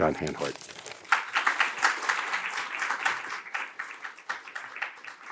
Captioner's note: audience applauds